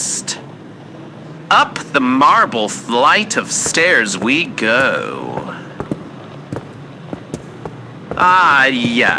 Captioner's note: walking up steps fx